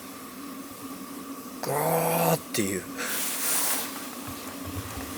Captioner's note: sound of water evaporating from the log